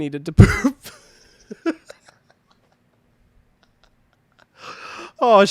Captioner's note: laughing